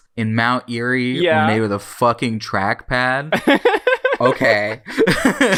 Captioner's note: laughs